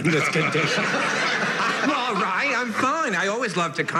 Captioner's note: laughter